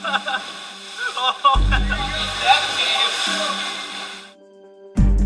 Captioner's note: laughter